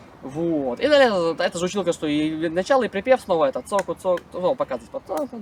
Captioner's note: something in Spanish